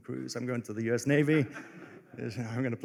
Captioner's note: laughter